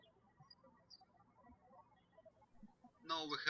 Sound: birds chirping

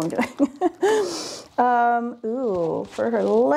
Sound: laughs

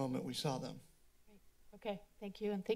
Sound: silence

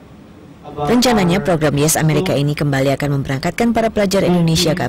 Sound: non-english speech

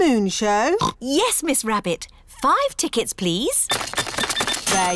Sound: oinks

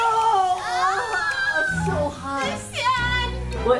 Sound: parents screaming

